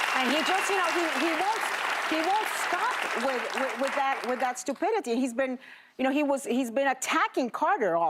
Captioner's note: applause